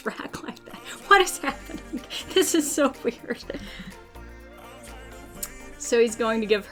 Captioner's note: laughs